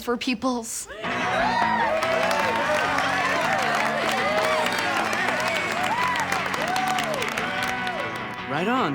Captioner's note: cheering and applauding